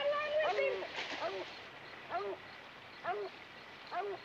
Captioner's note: dogs barking